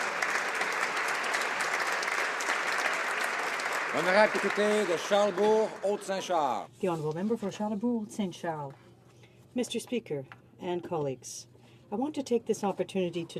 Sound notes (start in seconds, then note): 0.0 applause; 7.8 speaking French